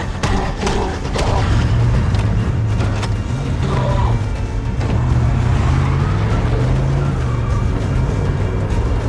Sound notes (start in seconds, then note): 1.7 engine rumbles